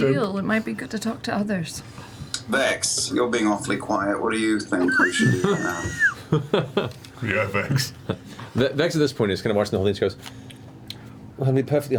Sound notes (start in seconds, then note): 4.8 laughter; 7.6 laughs